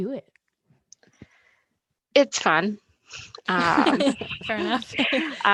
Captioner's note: all laugh